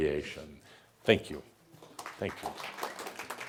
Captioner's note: audience applause